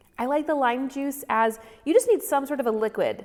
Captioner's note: none